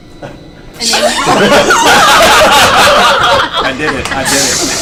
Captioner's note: all laugh